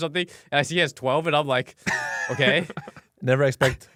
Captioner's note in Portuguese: risos